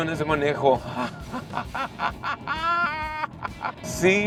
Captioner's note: laughter